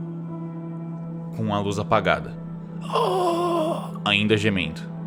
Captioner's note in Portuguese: grunhidos